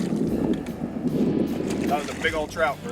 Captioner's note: none